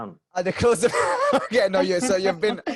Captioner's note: laughs